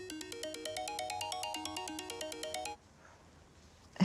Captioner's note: phone rings